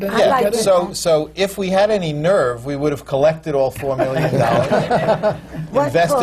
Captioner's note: laughter